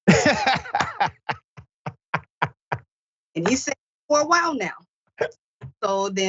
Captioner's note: laugh